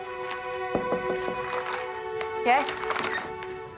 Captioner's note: knocking